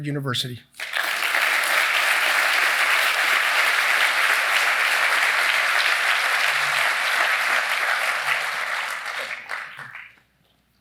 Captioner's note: applause